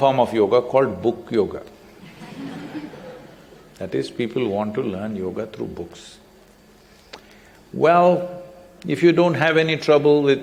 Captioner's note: laughter